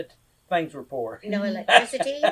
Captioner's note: laughs